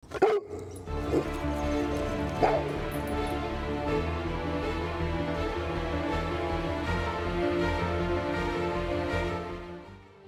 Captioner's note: Casper Barking and Growling; dramatic Music